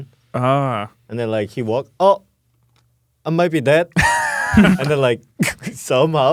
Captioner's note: laughs